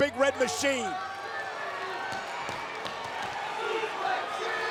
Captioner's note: crowd cheering